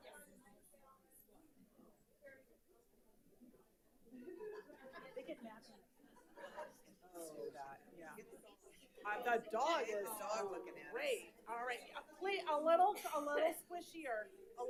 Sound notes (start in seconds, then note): 6.3 audience laughing; 8.3 people chattering